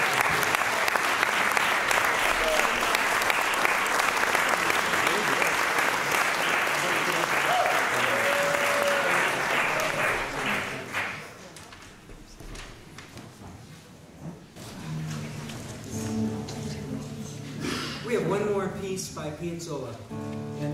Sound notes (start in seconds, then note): 0.0 cheering, applause; 0.0 applause